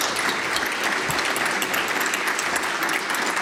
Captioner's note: applause